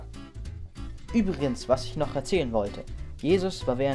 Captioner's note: voiceover